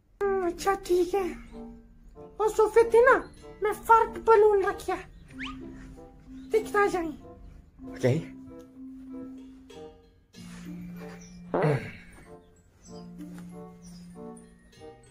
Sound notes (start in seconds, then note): 11.4 fart noise